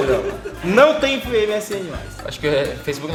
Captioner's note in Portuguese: Risos